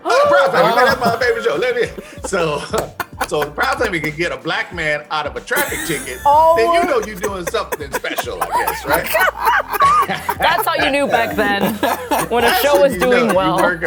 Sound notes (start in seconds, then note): 0.0 gasps; 9.1 laughing